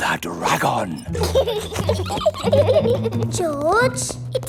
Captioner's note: both giggling